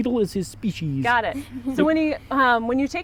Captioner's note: kids laughs